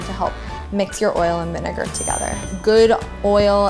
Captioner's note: ding